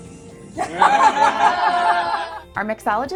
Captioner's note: laughter